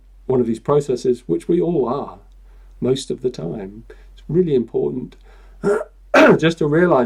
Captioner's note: clears throat